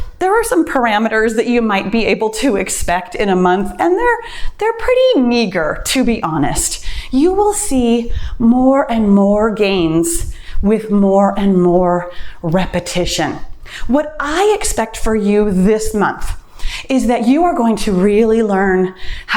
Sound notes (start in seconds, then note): none